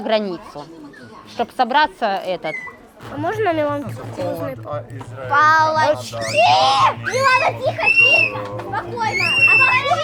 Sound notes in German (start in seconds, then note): 5.8 Schreie